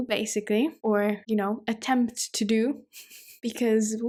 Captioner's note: chuckles